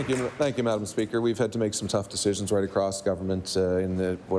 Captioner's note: applause